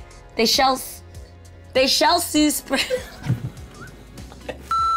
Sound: laughing

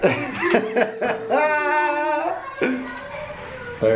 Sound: laughing

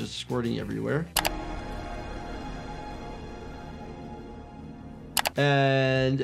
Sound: ominous music; keys clack

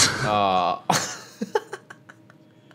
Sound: laughing

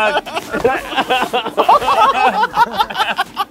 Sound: laughing

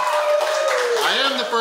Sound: cheering & Clapping

